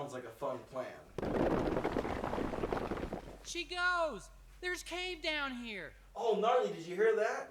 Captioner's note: rocks Crashing